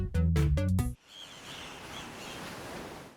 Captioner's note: waves splashing